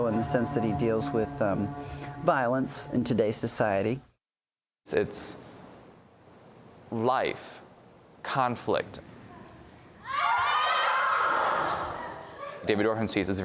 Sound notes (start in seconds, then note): 10.0 all yelling